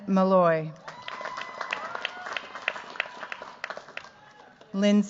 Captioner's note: cheers, applause